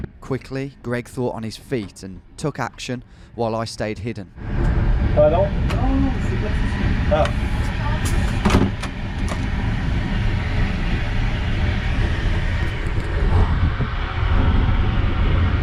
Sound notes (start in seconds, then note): 8.1 door latches; 9.9 engine noise